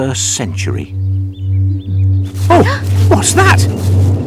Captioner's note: humming noise